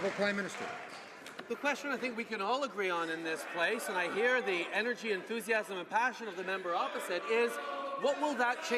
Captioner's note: cheering/Applause